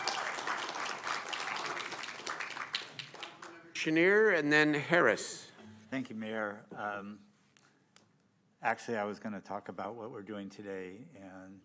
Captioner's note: applause